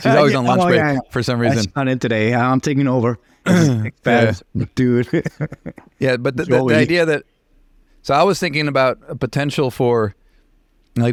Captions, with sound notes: - She's always on lunch break for some reason. - I'm in today, I'm taking over. (clears throat) - Yeah. - Dude. (laughs) - Yeah, but the idea that, so I was thinking about a potential for,